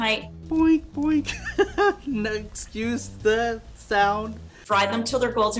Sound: laughs

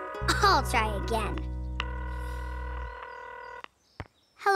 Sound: phone ringing

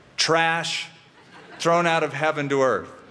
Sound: laughter

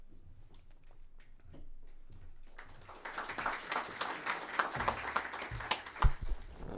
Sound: applause

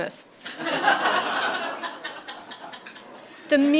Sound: laughter

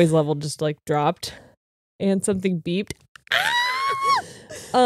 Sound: screams; breathes anxiously

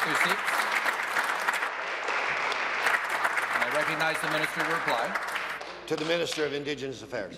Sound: applause

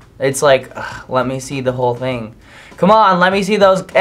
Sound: sighs

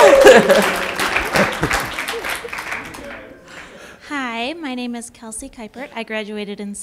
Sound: applause

